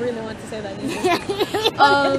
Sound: laughing

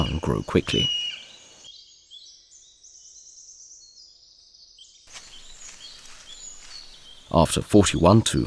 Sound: sounds of nature

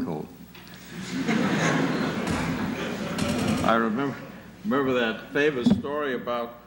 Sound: laughter

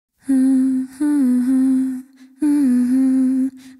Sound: humming

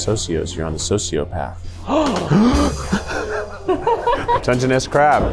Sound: gasps and laughs

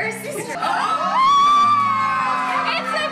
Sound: people exclaiming

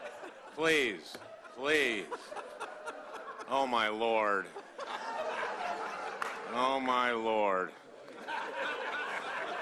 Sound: laughter

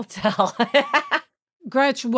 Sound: Gretchen laughs

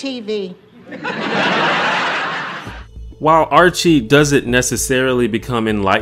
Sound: audience laughter

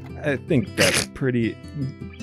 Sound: snickers

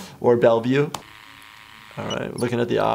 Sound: machine whirring

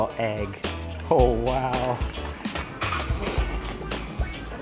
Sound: slurping

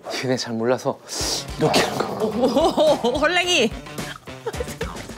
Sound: growl Growl

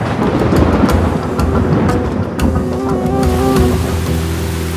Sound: rain & thunders

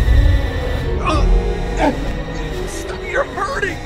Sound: tense music continues; Benson grunting

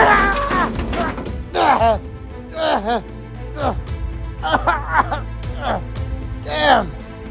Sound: Darius growning and coughing

